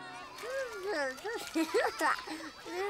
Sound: giggling

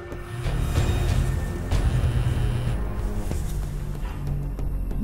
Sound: cell phone buzzing

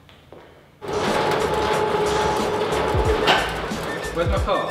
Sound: garage door sliding open

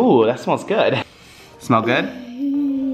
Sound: sniffs

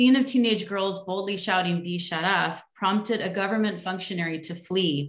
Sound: non english speech

